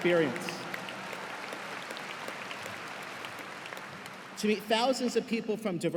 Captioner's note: cheers and applause